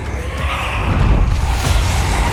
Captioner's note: snarling